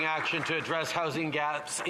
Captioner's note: some Applause